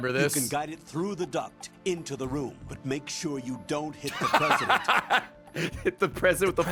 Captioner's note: laughs